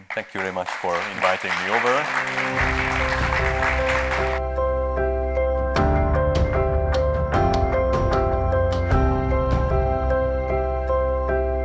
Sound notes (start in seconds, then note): 2.4 audience applauding; 2.4 upbeat music